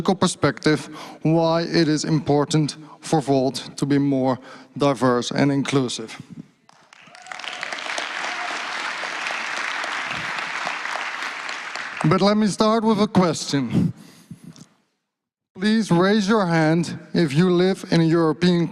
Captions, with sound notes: from a social psychology perspective why it is important for Volt to be more diverse and inclusive. (Applause) >> But let me start with a question. Please raise your hand if you live in European countries.